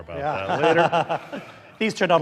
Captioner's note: chuckling